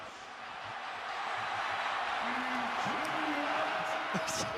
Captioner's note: cheers, applause